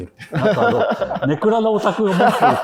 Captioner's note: laughing